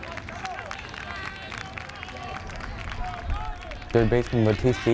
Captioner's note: crowd clapping rhythmically